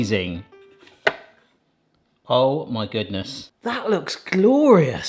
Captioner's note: bright instrumental music; lid clicks